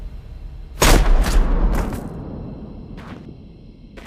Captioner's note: gun fires